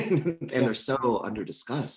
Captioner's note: chuckles